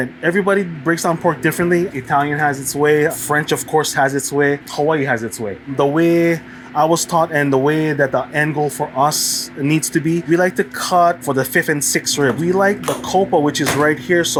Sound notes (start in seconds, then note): none